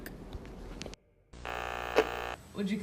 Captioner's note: Static